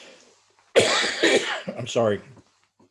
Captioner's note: coughing